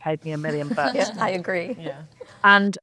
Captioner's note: panelists laughing